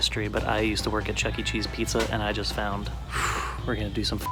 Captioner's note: makes woo sound